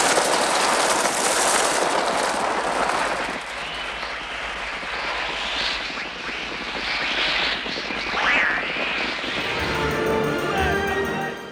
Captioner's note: Movie excerpt - The Birds: Sounds of bird wings flapping and children screaming